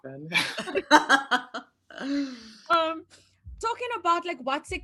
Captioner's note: laughing